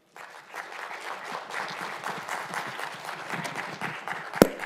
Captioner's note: attendees applauding